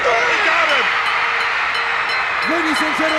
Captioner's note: bell ringing